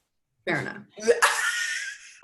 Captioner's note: laughter